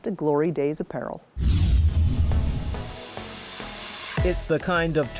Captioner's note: light swooshes